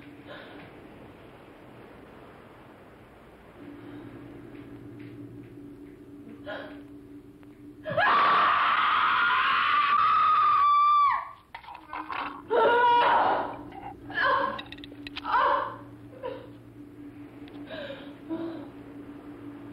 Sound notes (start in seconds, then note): 7.8 scream